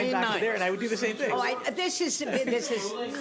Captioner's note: laughter